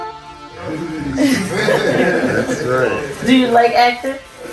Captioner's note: group laughing